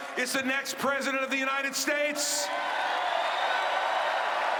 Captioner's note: cheering and applause